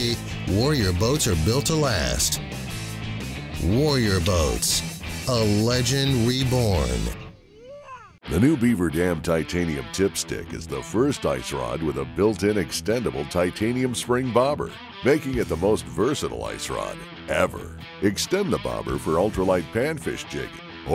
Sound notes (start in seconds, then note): 8.4 voiceover